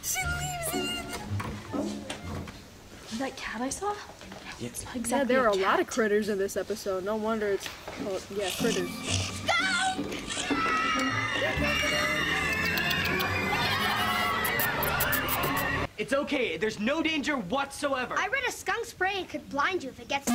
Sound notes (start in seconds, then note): 10.2 screamin and hollerin; 14.5 continued kissy, chirping noises; 14.5 kissy, chirpy noises